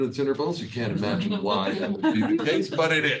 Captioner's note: attendees laughs